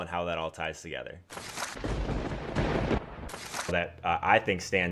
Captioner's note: lightning crack and crashing thunder